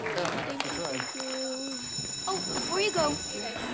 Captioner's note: bell rings